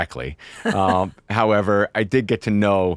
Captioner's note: laughs